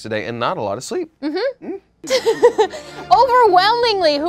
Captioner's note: laughing